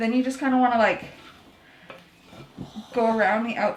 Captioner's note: scrapping